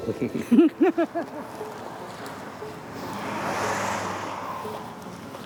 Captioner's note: chuckling